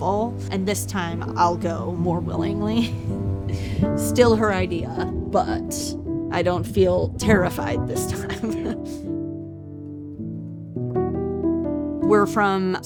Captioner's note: chuckles